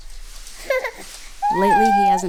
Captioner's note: baby cries